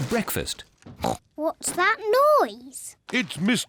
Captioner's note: snorts